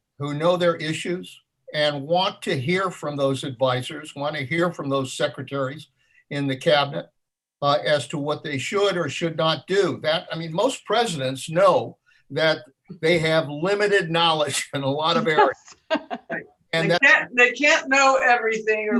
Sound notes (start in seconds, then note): 14.9 laughs